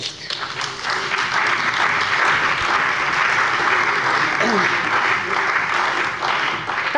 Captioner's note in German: Beifall bei dem BÜNDNIS 90/DIE GRÜNEN und der CDU